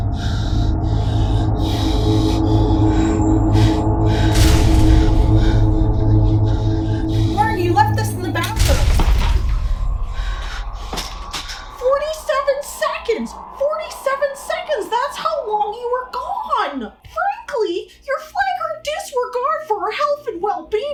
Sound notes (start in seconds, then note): 0.0 L: panting in fear; 0.3 ominous sounds; 4.2 crashing sound; 5.6 L: panting in fear; 10.5 hitting toy